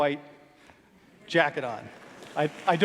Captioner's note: applause